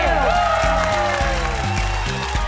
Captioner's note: audience applauding; cheers and applause